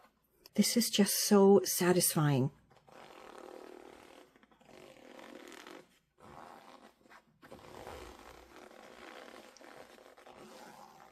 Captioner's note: gentle thread pulling sound